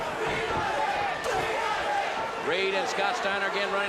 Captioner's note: crowd cheering